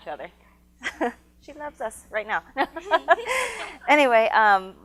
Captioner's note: laughs